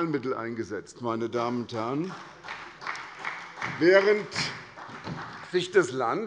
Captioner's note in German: Beifall bei der SPD